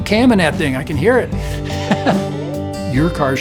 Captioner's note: laughs